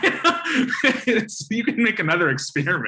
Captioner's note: laughter